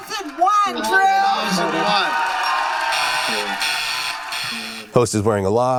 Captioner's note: button buzzes